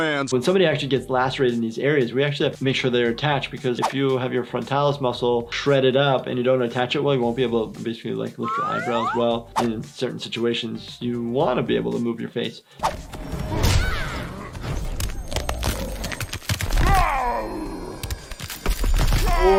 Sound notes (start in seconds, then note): 14.9 bones cracking; 16.8 yells